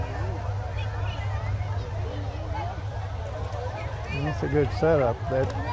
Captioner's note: revving and chattering continue